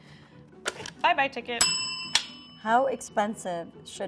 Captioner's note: bell ringing